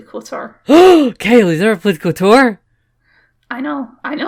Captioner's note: gasp